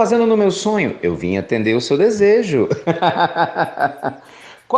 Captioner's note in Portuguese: Risos